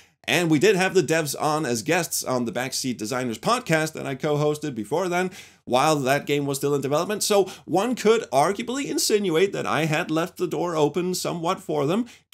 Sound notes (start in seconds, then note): none